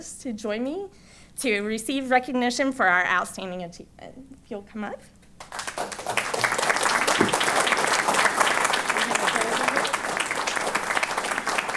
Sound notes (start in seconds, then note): 5.4 applause